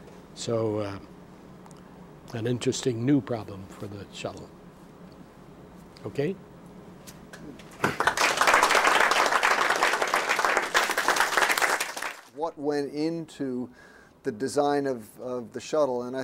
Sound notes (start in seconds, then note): 7.8 applause